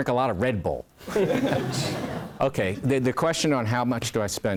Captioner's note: laugh